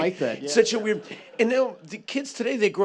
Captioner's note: laughter